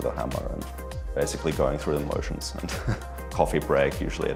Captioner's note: chuckles